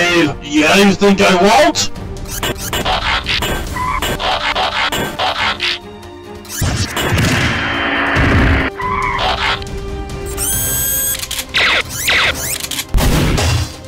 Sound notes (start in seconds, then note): 2.3 Metallic Fighting and G1 Transforming Sounds; 6.5 Barricade speeding; 8.7 tires Screech; 10.4 gunshots